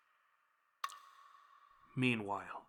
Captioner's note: blood dripping